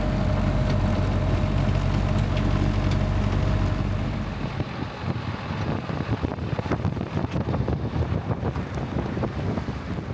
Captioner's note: engine rumbling